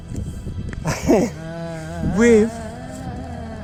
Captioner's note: laughs